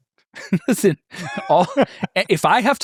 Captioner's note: laughing